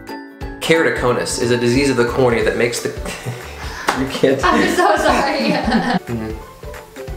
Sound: laughs

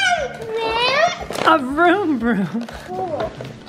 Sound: chuckling

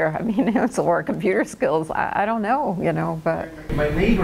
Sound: laughs

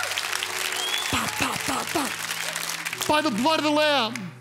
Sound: congregation cheers

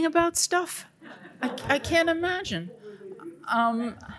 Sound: audience laughing

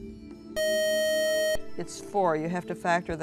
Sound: buzzer

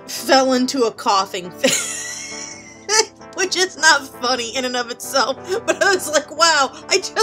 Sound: laughing

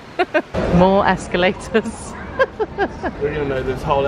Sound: chuckles

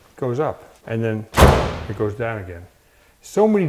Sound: door clicking; door thudding

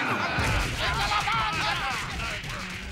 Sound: all clamoring

